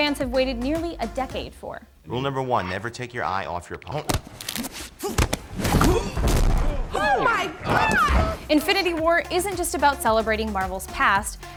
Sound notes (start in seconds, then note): 5.0 cracking; 5.0 thudding